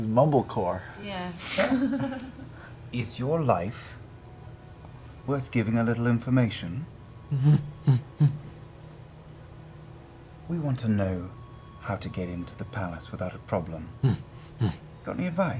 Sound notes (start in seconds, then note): 7.3 affirmative grunting